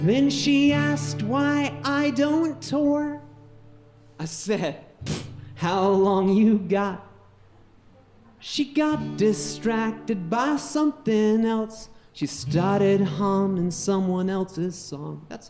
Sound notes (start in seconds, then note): 5.0 puffs